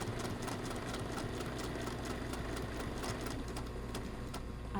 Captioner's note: sewing machine churning